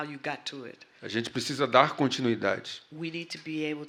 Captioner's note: speaking portuguese